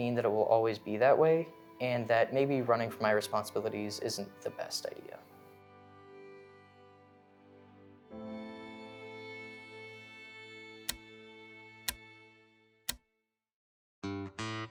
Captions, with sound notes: from my responsibilities isn't the best idea. [pensive music] [clock ticking] [relaxing upbeat music]